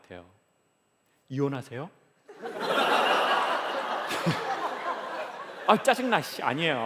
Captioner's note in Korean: 웃음